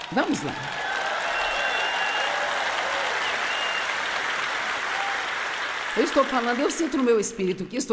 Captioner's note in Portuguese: audiência aplaude